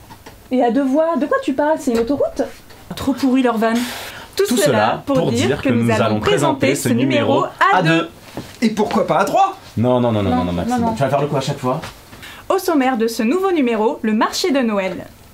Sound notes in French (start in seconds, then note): 4.6 à l'unisson